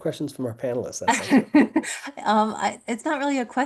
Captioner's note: laughing